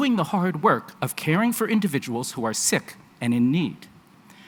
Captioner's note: none